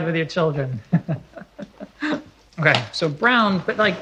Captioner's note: laughs